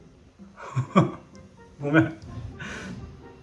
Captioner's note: laughs